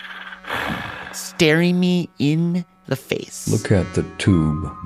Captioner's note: sighs